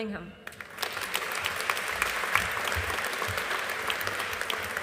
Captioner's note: audience applauding